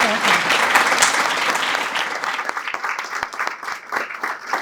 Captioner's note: applause